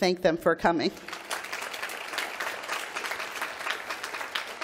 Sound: applause

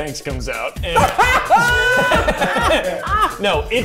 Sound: everyone laughing

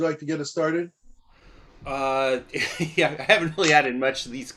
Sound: laughter

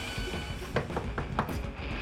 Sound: knock on the door

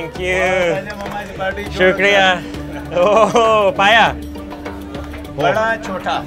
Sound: speaking in foreign language

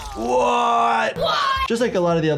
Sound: fighter groans; fighter screams

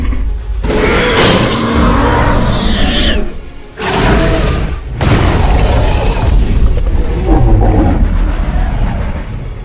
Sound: attacking sounds with crashes

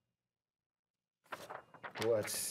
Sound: paper crinkles

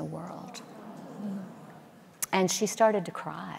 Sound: audience murmuring

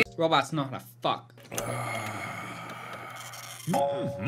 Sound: mark sighs very exhaustedly; mark humms in agreement

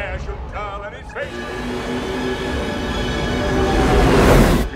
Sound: craft accelerating; music intensifies

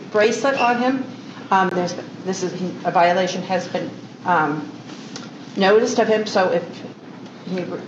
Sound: stammers

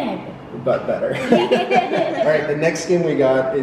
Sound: laughing

